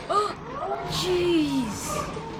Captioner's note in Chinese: 眾人譁然